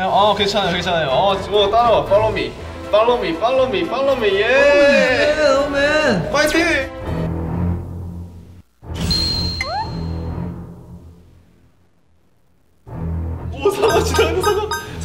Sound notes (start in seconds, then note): 6.2 HoHo bros cheering on for San